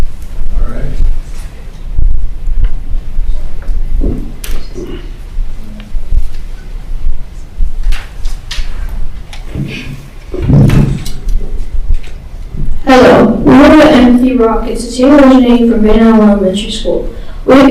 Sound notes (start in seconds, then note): 2.8 speaking faintly